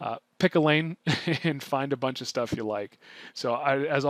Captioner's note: chuckles